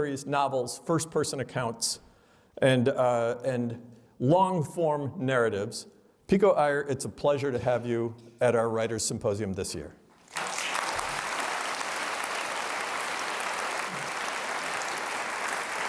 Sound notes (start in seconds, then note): 10.2 applause